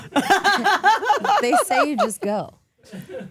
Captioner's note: Steph laughing